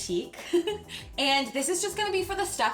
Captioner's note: chuckles